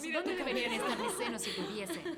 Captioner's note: laughs